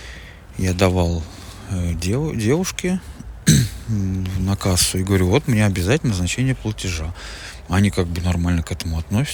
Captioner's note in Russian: откашливается